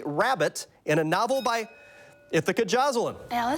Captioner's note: bell dings